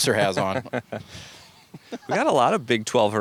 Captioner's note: laughs